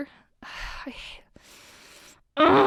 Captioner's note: deep inhale